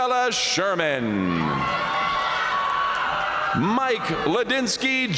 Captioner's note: audience cheering and applauding